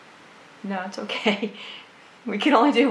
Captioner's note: laughs